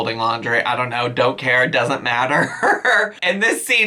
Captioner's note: laughs